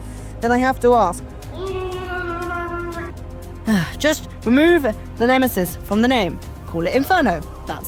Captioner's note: muffled SCREAMING